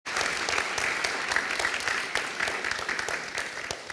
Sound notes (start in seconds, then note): 0.0 applause